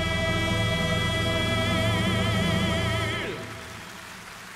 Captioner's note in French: acclamations